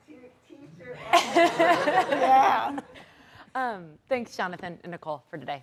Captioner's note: everyone laughs